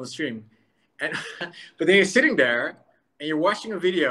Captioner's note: laughs